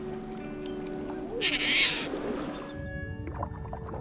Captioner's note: bird squawks